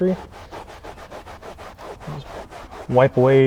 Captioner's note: scrubbing